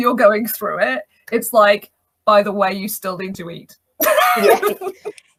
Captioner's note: laughs